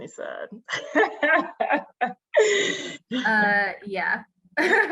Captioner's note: laughs